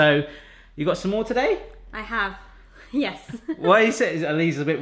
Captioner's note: laughs